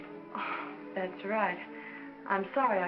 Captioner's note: sighs